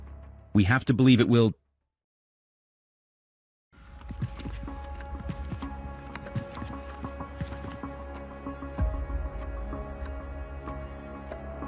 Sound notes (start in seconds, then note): 4.0 footsteps thudding; 9.1 suspenseful music